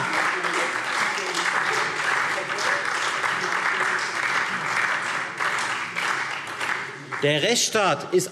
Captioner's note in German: Beifall Freie Demokraten, SPD und DIE LINKE